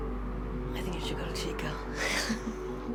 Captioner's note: laughs